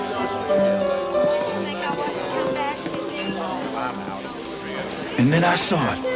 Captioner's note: piano music continues; patrons chatter